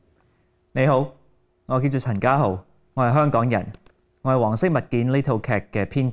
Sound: speaking in Cantonese

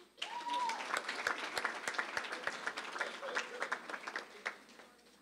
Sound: applause

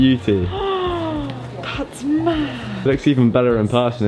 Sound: inhales deeply

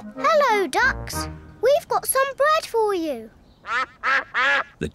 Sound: all quack; quacking

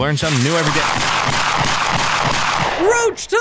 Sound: gunshots

